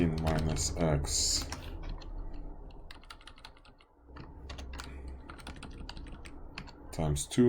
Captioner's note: clicking Sounds